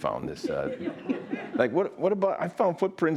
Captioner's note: audience laughing